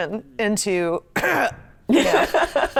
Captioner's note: coughs